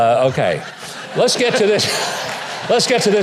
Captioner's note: audience laughing